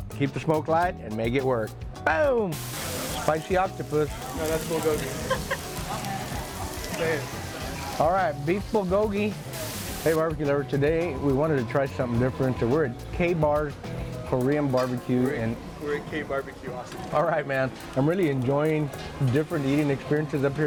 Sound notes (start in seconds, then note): 5.8 food sizzling